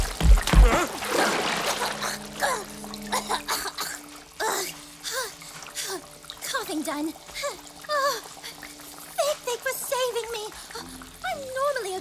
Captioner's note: sputtering and coughing